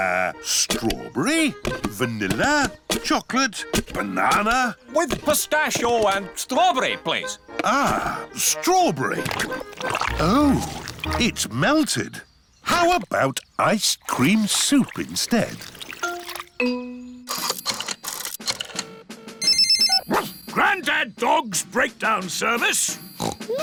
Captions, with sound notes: Uh, strawberry, vanilla, chocolate, banana... With pistachio and strawberry, please. Ah! Strawberry. Oh. It's melted. How about ice-cream soup instead? (LINE RINGS) (BARKS) Granddad Dog's breakdown service.